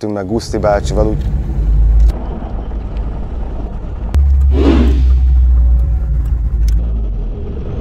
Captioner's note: engine noises; engine revving